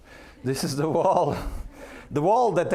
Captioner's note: laughing